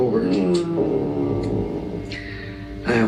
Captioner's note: groaning